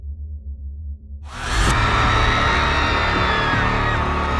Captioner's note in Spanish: público aclama